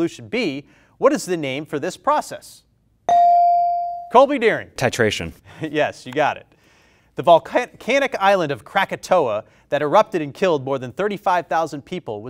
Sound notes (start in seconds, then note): 3.1 bell rings